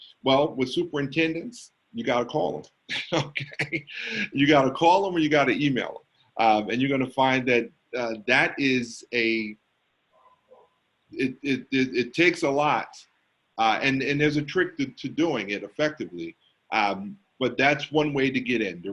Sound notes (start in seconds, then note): 2.9 laughs